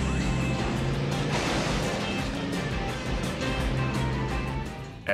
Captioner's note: tires screeching; upbeat music; metal clunking